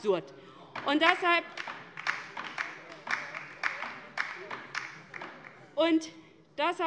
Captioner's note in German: Beifall bei der LINKEN